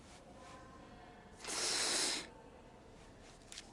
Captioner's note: <i>inhales deeply</i>